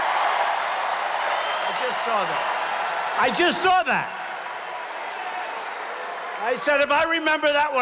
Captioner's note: applause